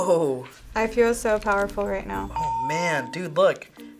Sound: bell rings

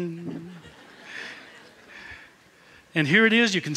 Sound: laughter

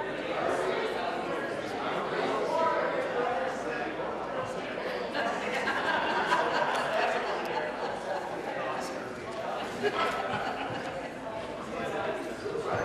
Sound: conversation din

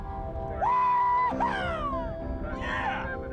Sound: soft music; screams

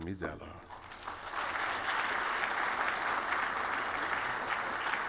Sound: applause

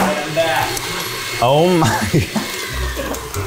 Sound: laughing

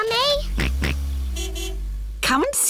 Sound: car horn honks; george oinks

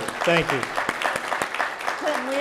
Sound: audience applauding

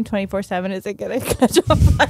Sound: laughs

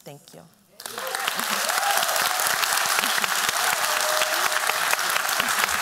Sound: applause

